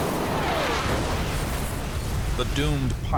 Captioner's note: explosion